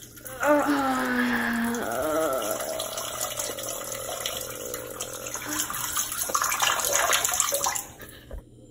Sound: peeing noises; Mario sighs in relief for almost 10 seconds

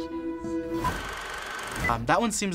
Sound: film clicking

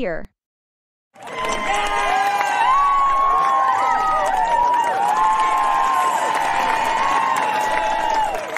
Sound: cheering

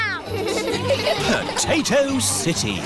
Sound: all giggling

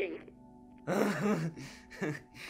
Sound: Hen Laughs

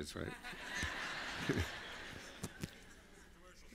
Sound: laughter

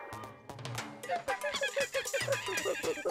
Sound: monkey cries

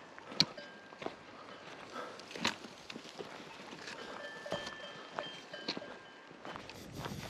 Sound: lowbell ringing

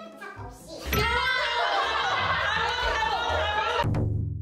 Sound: haha

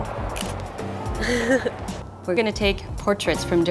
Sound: laughs

